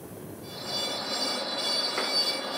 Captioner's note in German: Schleifgeräusche